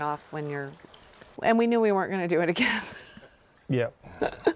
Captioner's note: laughs